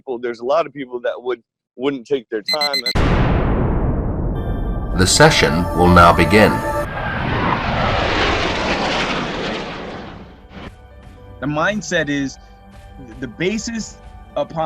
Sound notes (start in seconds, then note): 2.4 beeping sound; 7.2 airplane soaring